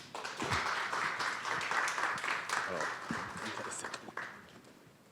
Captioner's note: attendees applauding